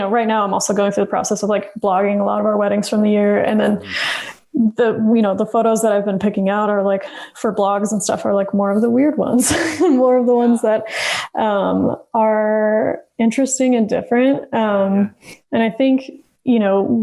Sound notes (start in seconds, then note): 10.6 laughs